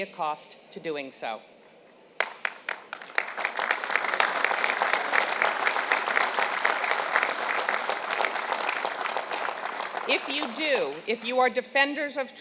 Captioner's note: applause